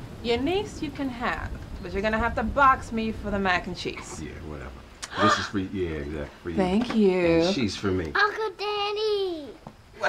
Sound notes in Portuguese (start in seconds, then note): 5.0 Dorah suspira